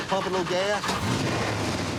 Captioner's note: revving engine